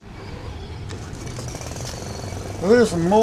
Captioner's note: wind sound; lawnmower sound